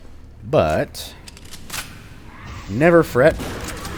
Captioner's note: Bugdogs snarl, Shotgun blasting